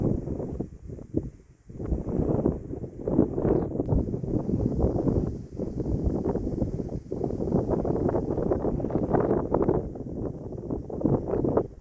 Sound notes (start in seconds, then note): none